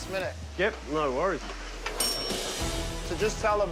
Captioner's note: kitchen bell sound